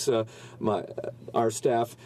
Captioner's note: speaking french